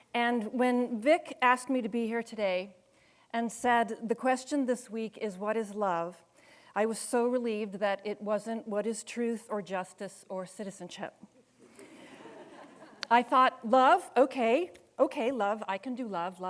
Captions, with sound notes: And when Vic asked me to be here today and said the question this week is "What is love?" I was so relieved that it wasn't "What is truth, "or justice, or citizenship?" (audience laughing) I thought love, okay, okay love, I can do love.